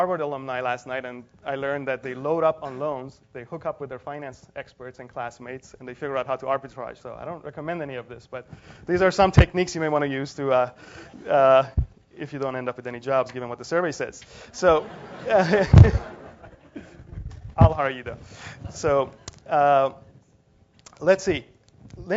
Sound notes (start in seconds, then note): 14.8 laugh